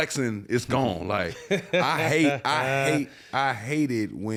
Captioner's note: Matt chuckles